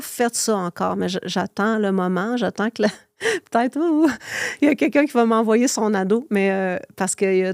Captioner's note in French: rires